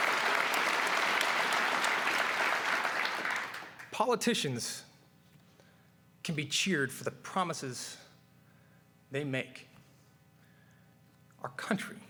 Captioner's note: applause